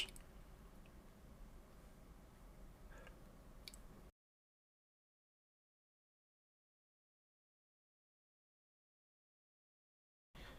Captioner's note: silence